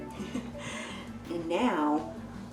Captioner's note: chuckles